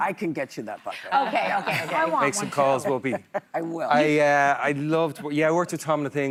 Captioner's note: laughter